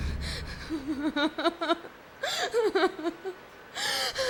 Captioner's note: woman crying